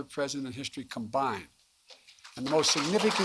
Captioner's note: applause